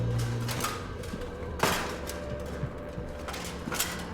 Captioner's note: armor clanking; ominous music continues